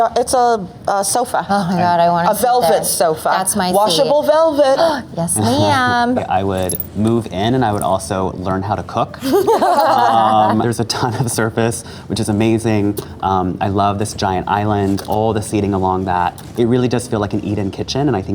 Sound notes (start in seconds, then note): 9.2 laughs